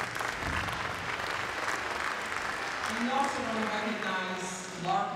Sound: applause

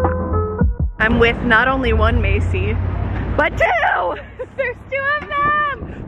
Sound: laughs

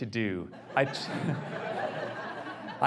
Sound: audience laughs

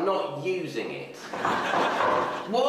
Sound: mom knocking

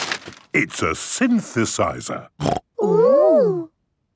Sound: snorting

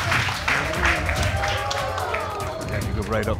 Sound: audience exclaiming

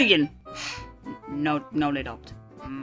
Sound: sighs

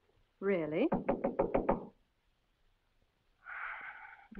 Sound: knocking at door; sighs

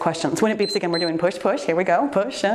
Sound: timer beeps

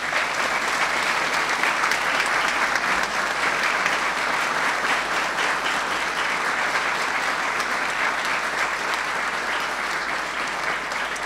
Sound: applause

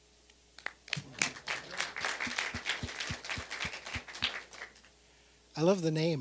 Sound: applause

